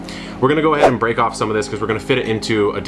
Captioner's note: logo whooshes